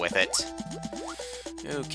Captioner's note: inhaling